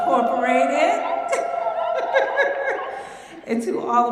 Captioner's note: applause, laughter